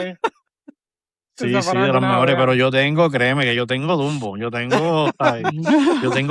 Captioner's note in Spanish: risas